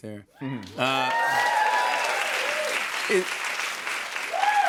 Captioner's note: cheers and applause